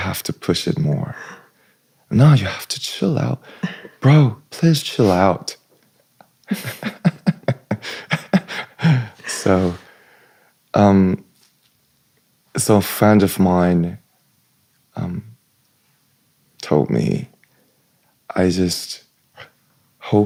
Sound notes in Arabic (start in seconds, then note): 6.4 ضحك